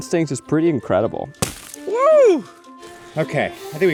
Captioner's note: wood cracks